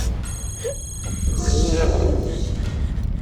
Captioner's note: animal growls